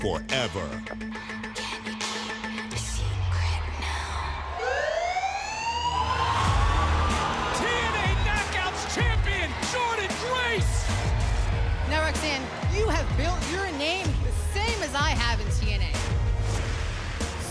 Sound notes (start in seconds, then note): 4.5 sirens